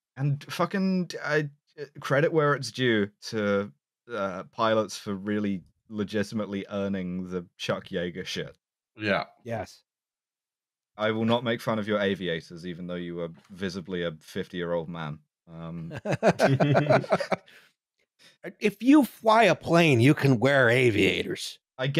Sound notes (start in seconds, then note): 15.8 laughing